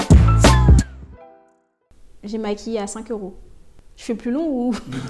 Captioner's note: laughs